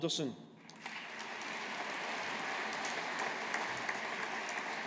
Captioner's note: audience applauding